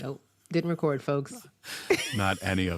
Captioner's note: laughs